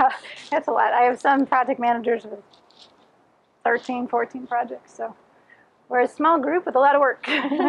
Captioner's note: laughing; laughing